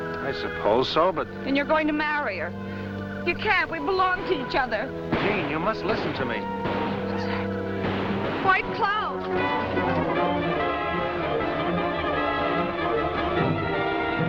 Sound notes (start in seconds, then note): 6.7 gunfire; 9.5 dramatic music